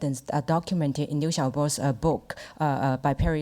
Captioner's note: speaks Mandarin